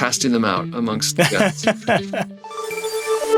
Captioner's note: laughs; upbeat music